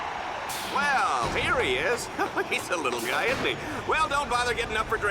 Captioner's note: laughs